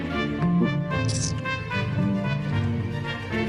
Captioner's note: speaking foreign language